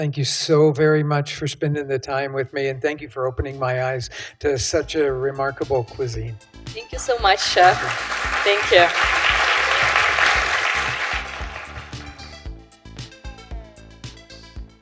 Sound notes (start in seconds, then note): 10.1 audience applause; 11.9 theme music plays